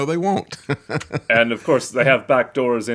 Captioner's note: laughs